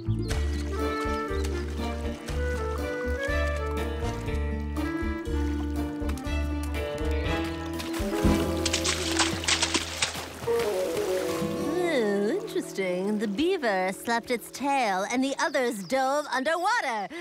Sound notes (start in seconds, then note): 0.3 whimsical music; 8.6 water splashing